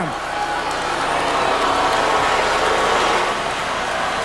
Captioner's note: audience yelling